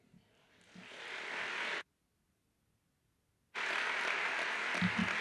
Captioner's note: audience applauds